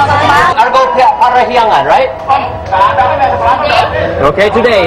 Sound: speaking indonesian

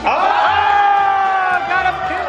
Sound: group cheers

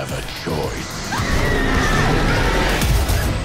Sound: Dorothy screams

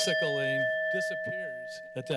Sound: timer bell dings

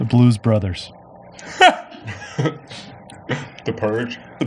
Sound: laughs

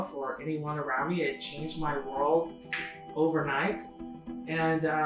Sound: finger snaps

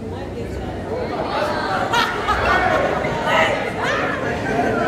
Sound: mild laughter and confusion

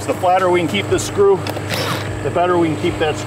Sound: machine rumbling; drill rattling

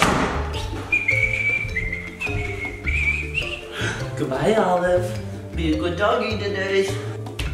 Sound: whistles

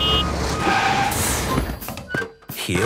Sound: honking, engine revving

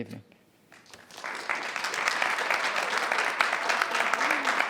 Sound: audience clapping

